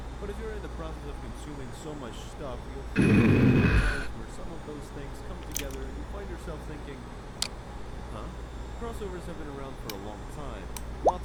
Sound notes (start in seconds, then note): 2.9 Homewrecker growls; 5.4 mouse clicks, keyboard strokes